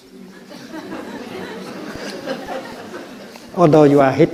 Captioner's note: crowd laughs